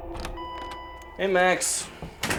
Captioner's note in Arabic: رنين جرس الباب